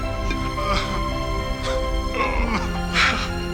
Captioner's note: sobbing